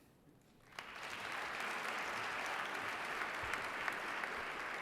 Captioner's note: crowd clapping